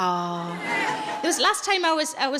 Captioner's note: audience laughs